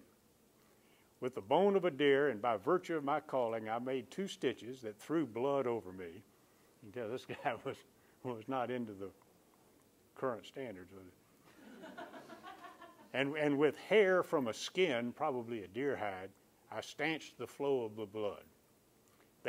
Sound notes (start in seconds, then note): 11.5 chuckles